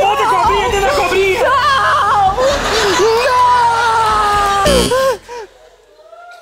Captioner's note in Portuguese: campainha